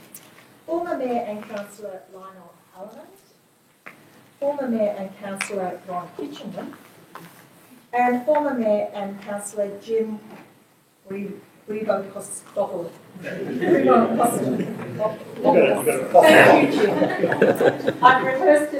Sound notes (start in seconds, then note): 13.2 laughing